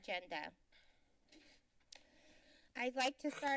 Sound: clicks Tongue

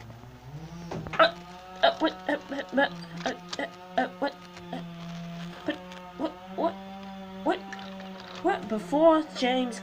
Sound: stammers and stutters

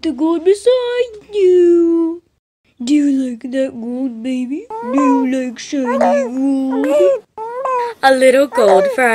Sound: baby cooing

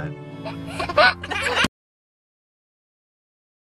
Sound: laughing

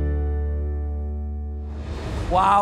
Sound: transition whooshing

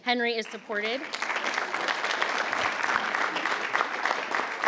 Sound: crowd clapping

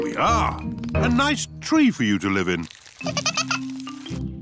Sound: giggling

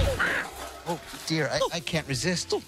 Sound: crash!

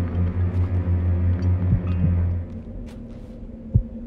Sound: metal clanking; heartbeat thumping

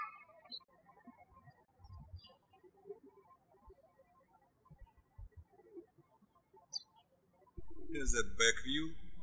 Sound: birds chirping

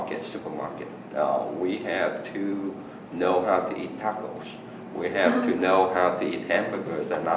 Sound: laughs

